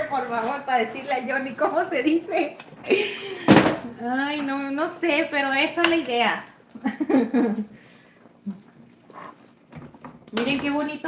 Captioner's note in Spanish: risas